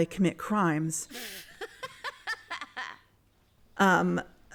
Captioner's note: bursts out laughing